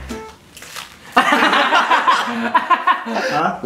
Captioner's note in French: Rires